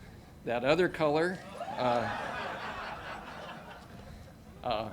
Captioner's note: audience laughing